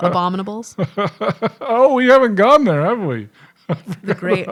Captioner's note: chuckling